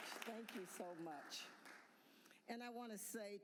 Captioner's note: applause